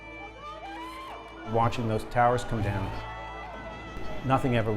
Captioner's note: yelling; voiceover